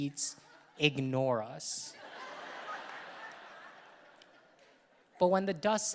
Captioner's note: audience laughing